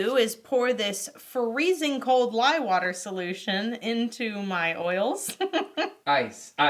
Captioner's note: laughs